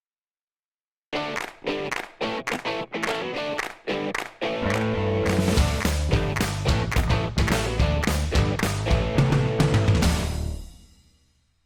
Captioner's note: claps